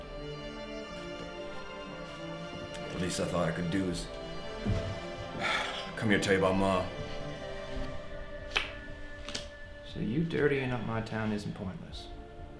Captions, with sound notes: The least I thought I could do is (sighs) come here and tell you about ma. - So you dirtying up my town isn't pointless.